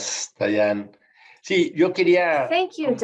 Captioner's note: speaking in Spanish